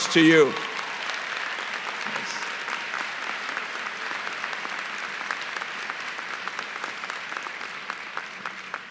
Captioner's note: applause